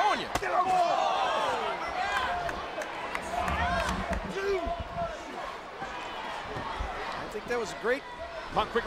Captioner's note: applause